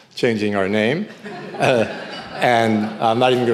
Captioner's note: audience laughing